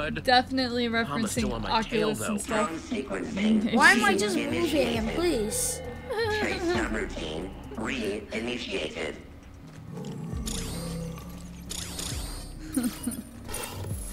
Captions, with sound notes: - Definitely referencing Oculus and stuff. - Why am I just moving in place? (giggles) (robots walking)